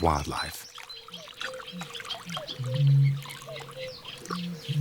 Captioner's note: birds singing